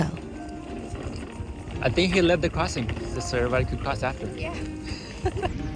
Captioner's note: laughter